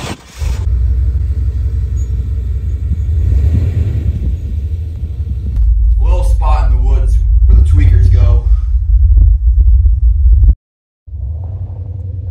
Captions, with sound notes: [Engine rumbling] - A little spot in the woods, where the tweakers go...